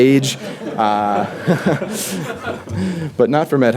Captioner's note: audience laughter; laughs